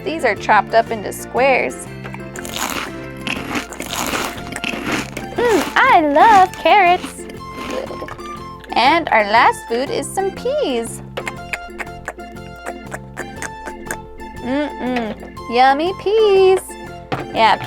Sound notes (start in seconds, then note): 2.0 munching noises; 11.0 lip smacking noises